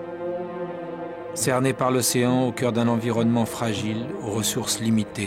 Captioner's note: French spoken audio